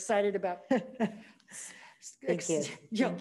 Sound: laughing

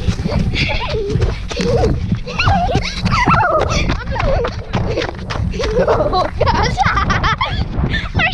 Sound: laughter

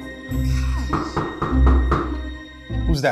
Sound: front house door knock

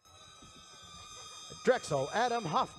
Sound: audience cheers

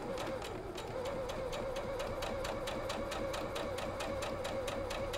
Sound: sewing machine humming

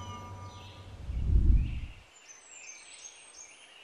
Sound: birdsong

